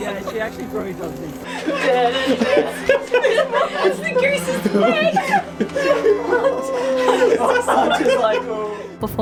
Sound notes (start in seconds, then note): 5.3 all laughing